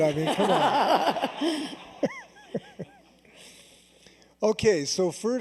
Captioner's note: laughter